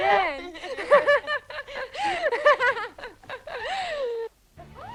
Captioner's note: both laughing